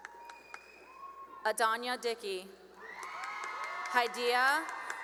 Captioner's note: cheering and applause; cheering and applause